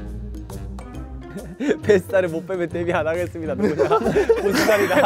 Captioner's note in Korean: ㅎㅎㅎㅎ